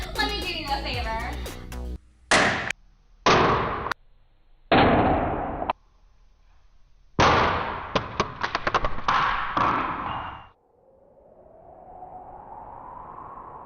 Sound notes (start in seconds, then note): 0.0 laughing continues; 2.3 phone slams on floor in slow motion